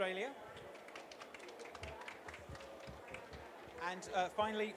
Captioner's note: applause